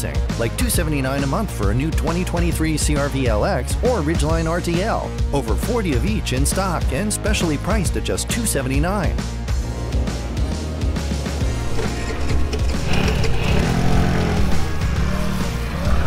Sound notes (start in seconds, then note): 11.4 scooter starts sfx; 13.6 scooter driving sfx